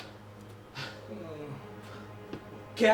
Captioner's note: Captain groans